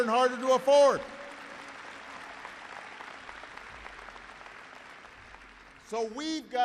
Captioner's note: applause